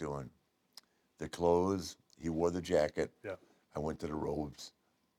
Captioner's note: none